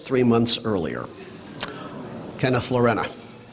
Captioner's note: applause